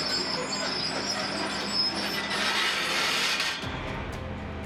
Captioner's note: track creaking